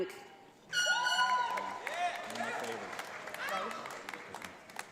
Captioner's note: audience applauds